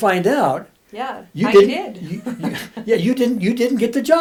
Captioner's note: laughs